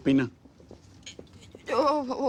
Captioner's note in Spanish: Balbucea